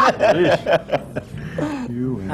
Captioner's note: laughs